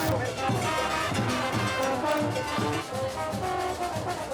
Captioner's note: horns blow